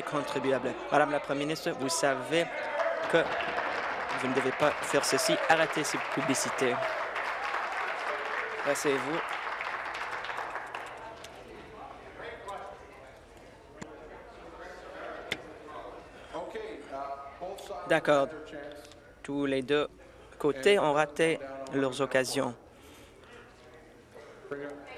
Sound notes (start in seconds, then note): 7.9 applause